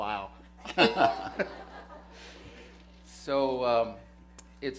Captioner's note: laughter